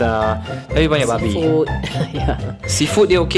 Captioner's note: laugh